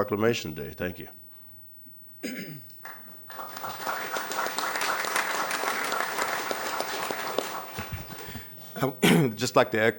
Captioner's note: applause